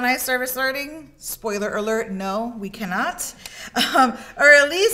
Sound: chuckles

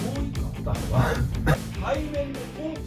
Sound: cough

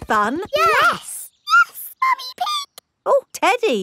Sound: in high-pitched voice

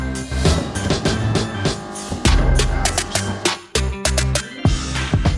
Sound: drilling

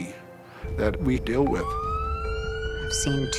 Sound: siren

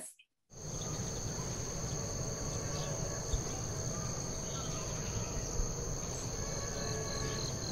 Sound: birds chirping; crickets chirping

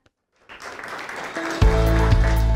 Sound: students applauding; upbeat music

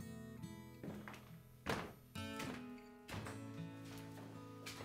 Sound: footsteps approaching

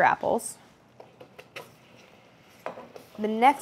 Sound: apples sliding

